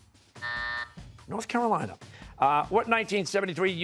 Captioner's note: buzzer